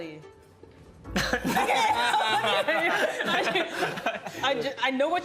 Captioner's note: laughing